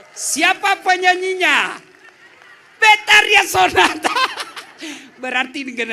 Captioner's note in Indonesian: tertawa